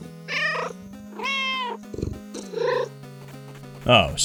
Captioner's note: meow